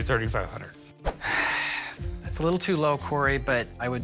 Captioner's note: sighs